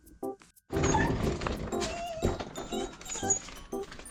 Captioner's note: the dog is crying